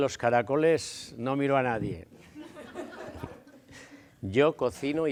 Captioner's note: laughs